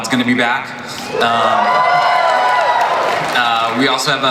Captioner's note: audience cheers